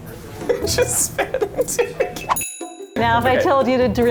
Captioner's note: laughing